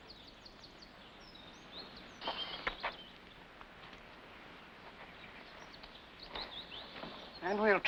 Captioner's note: birds chirping